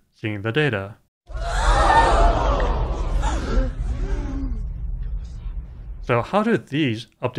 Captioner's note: crowd gasping